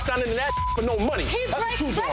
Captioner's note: beep